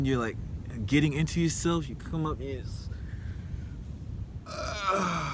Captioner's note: yawn